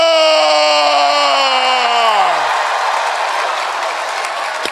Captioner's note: cheering